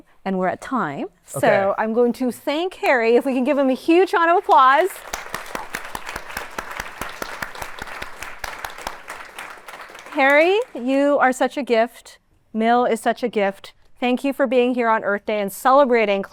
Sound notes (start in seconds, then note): 4.2 applause